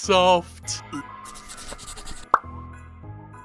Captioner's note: pencil scratching